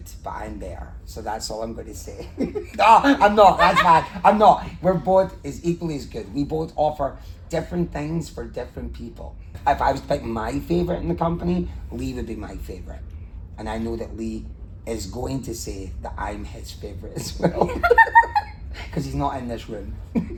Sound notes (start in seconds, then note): 2.2 laughs; 17.2 laughs